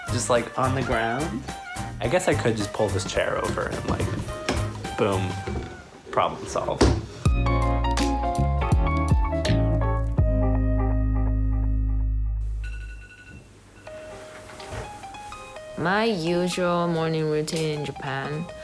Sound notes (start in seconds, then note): 8.2 light jazz music; 12.5 alarm ringing